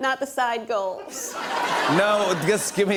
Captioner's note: laughter